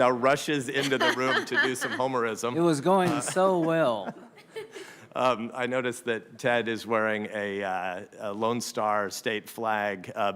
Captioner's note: laughter